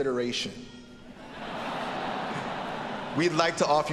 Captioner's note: audience laughing